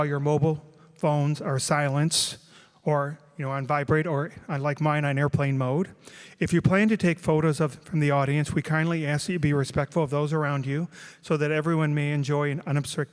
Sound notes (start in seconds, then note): none